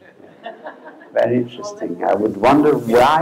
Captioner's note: laughter